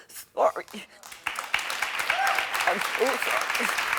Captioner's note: audience applauding